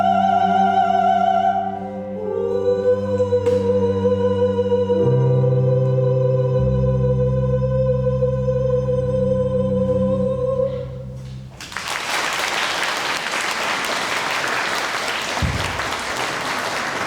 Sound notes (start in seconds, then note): 11.6 applause